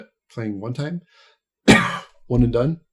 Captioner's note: coughs